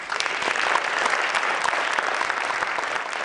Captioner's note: applause